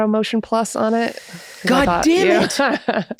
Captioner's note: laughs